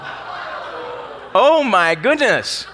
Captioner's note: audience talking